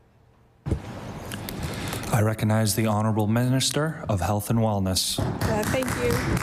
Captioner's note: applause